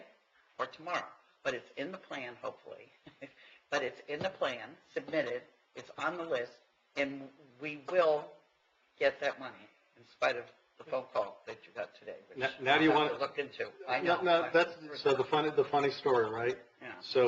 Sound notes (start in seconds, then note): 2.7 laughing